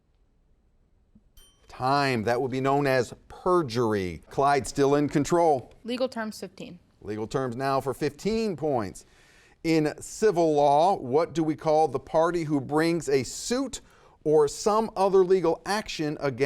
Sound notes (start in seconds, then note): 1.3 timer chimes